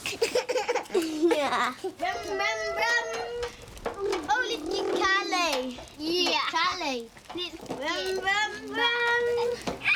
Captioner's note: boys shout and play